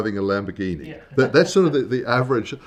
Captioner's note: laughs